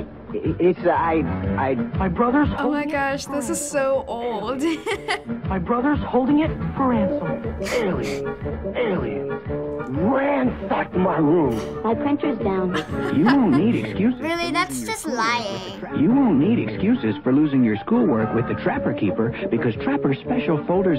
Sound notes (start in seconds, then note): 0.1 student #2 stammering; 4.5 giggling; 7.3 chuckling; 12.7 chuckling